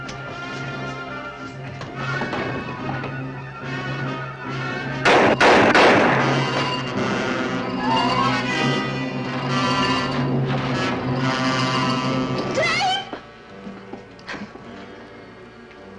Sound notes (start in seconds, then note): 0.2 dramatic music; 5.0 gunshots firing